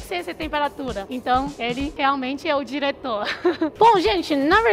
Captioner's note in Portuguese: risos